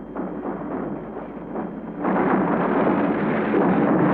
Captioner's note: explosions